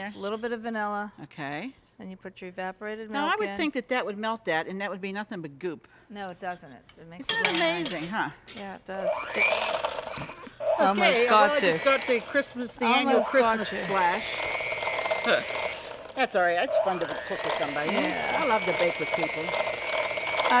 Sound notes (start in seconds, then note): 9.7 mixer whirring; 10.6 snorts